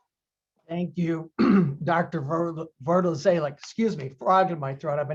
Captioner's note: clearing throat